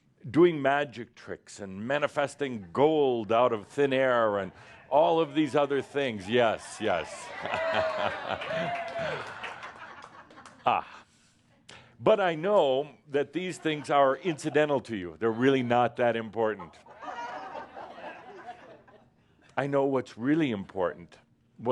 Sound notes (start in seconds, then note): 7.1 audience approval and applause; 16.7 more chuckles